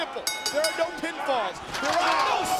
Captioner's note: bell rings